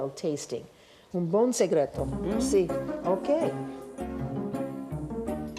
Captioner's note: speaking Italian